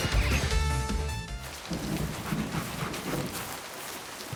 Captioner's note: arcade music dies down; rain and thunder